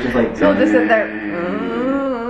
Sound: snores

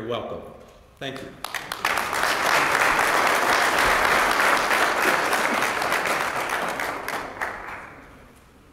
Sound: applause

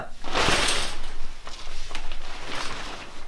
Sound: shower curtain rattles

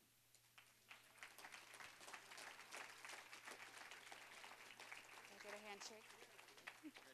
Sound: applause

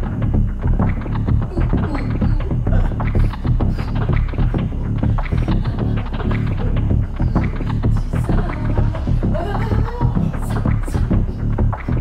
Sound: vocalization of movement

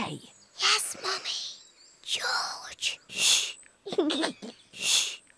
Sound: whispers; giggles

